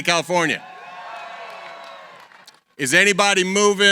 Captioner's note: cheering